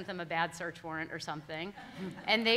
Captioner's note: all laughing